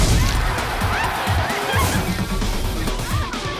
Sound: crowd cheers

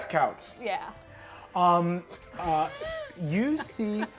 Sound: laughs

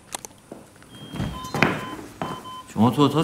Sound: door opening

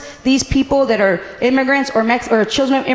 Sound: none

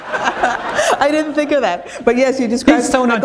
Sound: laughter

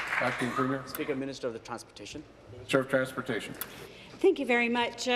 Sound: applause

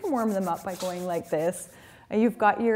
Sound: rubbing palms together

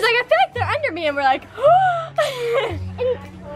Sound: gasps

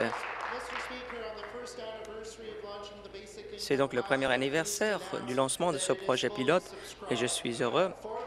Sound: some Applause

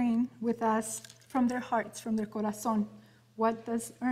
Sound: speaking in Spanish

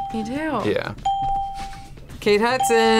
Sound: ding

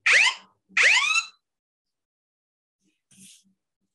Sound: phone alarm

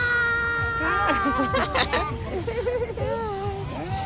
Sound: laughs

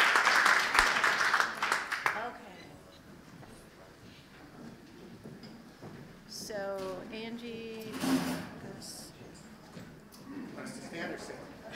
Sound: applause

